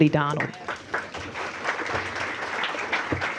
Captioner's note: applause